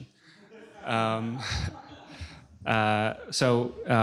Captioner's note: laughter